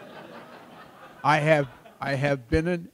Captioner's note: laughter